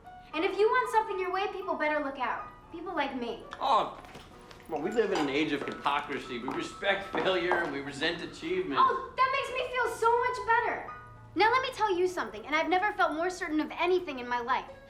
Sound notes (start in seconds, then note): none